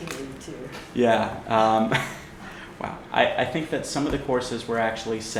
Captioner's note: laughter